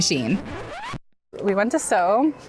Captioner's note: record needle scratches